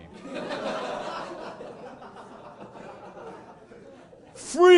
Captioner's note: audience laughing